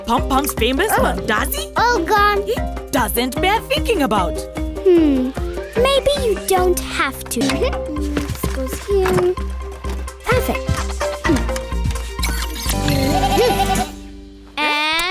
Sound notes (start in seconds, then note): 12.1 beeping